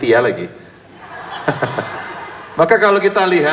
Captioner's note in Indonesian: tertawa